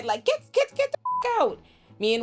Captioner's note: beep